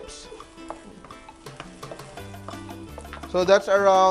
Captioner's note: sizzle